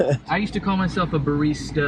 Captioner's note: cameraman laughing